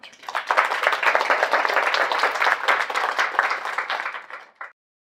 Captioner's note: audience applauding